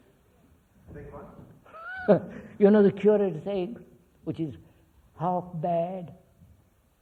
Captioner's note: laughs